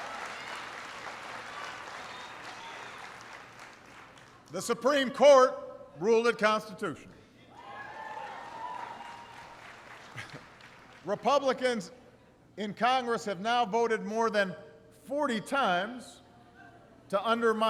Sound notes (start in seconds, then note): 0.0 applause; 7.7 applause